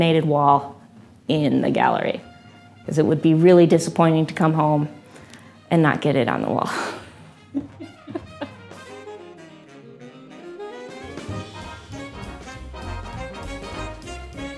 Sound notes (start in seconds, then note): 6.8 laughs